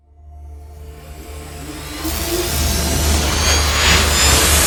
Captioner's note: logo whooshes